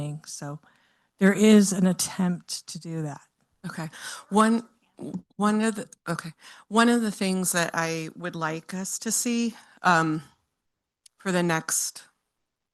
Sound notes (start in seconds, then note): 4.9 speaking faintly